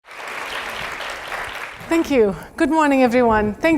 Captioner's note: applause